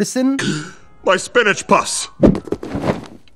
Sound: gasp

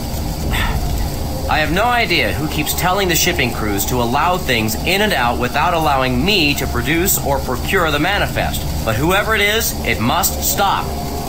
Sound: sigh

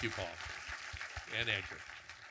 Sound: audience clapping

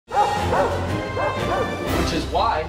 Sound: barking

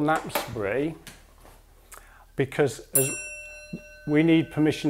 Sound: the bell rings once

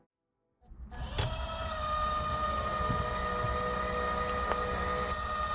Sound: machinery whirring

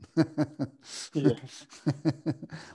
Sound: laughter

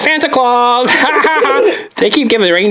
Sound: both laugh

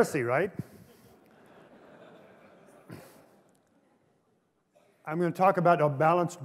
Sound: laughter

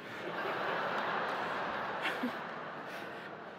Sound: audience laughing

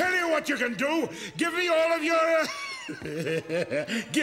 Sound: laughing

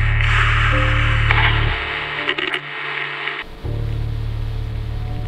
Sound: static buzzing

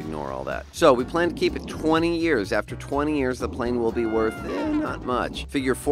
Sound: jet flying

